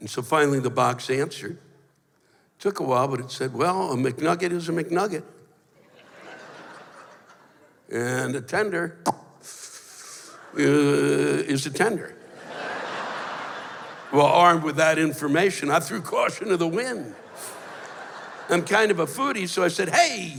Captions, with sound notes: And so finally the box answered. It took a while, but it said, "Well, a McNugget is a McNugget. And a tender... [pops, sucking sound] is a tender." [laughter] Well, armed with that information, I threw caution to the wind. I'm kind of a foodie, so I said, "Hey!